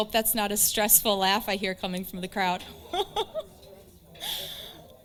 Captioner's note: chuckles